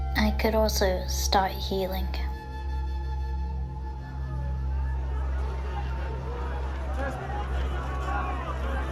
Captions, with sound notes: I could also start healing. [somber music] [people yelling]